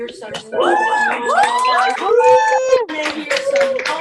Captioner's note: cheering and applause